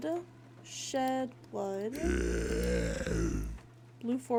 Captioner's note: guttural Noises